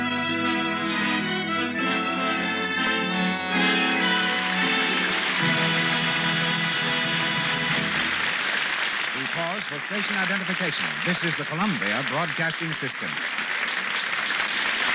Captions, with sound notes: (upbeat music) (applause) We call for station identification. This is the Columbia Broadcasting System.